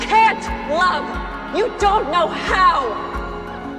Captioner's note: shouting